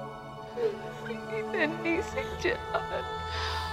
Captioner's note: Rabiyah crying